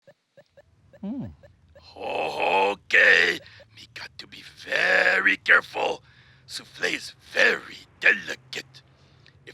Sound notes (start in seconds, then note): 0.0 tablet beeping